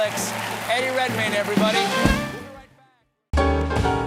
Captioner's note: cheers and applause